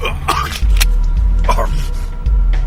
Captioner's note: chokes; gun cocks